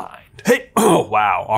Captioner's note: clears throat